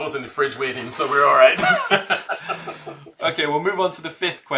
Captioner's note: laughs